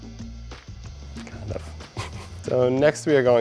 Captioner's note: chuckles